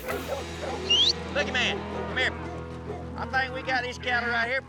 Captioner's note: whistle